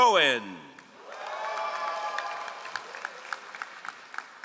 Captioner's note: all applauding